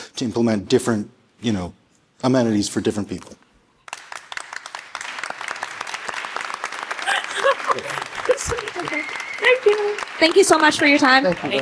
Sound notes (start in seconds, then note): 3.8 audience applauding